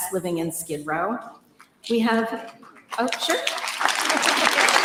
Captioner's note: applause